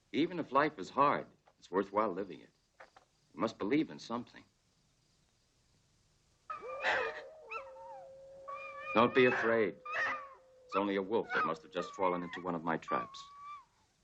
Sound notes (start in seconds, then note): 6.5 wolves whimpering; 6.5 wolves howling